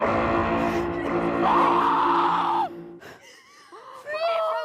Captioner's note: screams